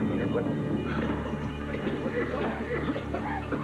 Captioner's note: coughing